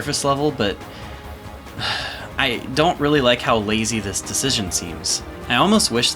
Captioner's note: sigh